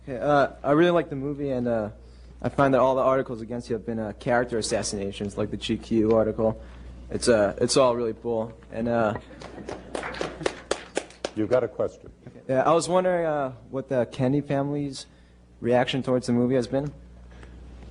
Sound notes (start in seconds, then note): 9.4 applause